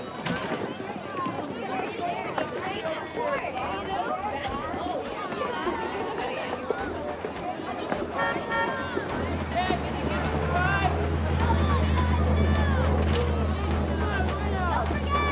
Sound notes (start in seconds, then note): 7.6 car horn honks